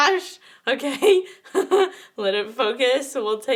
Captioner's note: laughs